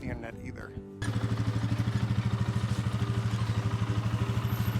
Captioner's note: engine rumbling